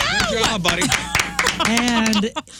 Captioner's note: laughing